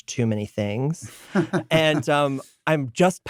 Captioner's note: laugh